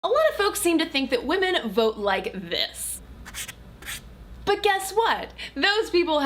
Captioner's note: marker on paper